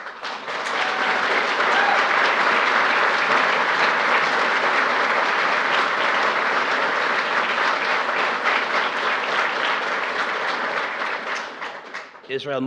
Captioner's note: applause